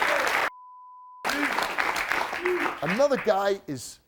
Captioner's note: beeping